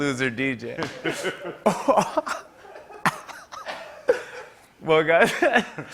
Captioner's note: laughter